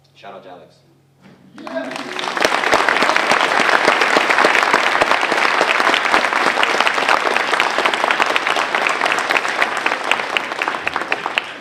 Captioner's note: applause